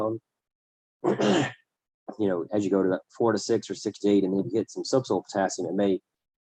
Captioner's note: cough